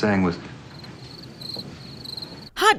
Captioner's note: cricket sounds